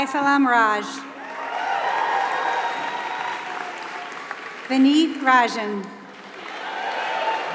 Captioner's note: applause